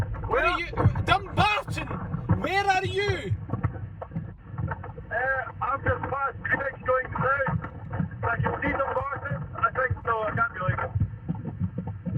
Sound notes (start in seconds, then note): 1.9 shouts